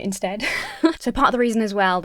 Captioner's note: Emma chuckles